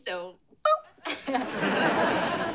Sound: laughs

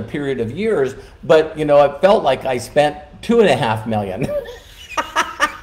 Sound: laughing

